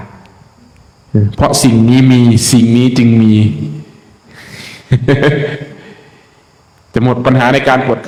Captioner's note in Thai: เสียงหัวเราะ